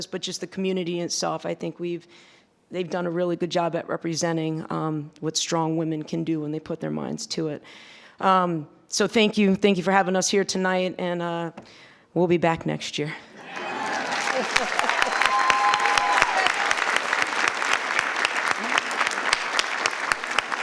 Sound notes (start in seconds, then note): 13.4 attendees cheering; 13.4 attendees applauding